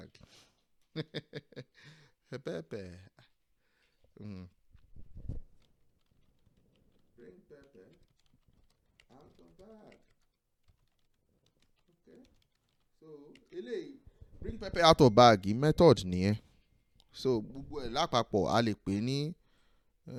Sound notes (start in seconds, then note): 0.9 laughs; 5.4 mumbling while typing